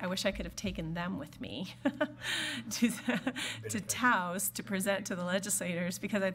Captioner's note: laughs